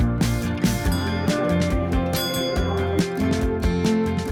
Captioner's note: bell ringing